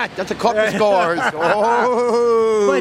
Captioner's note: laughs